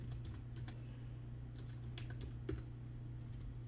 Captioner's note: typing